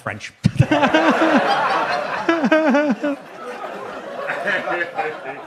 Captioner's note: audience laughs; laughs